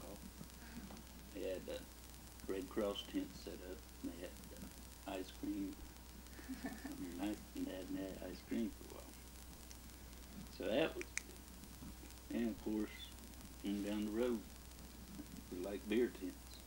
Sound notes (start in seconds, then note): 6.4 laughs; 11.0 clicking sound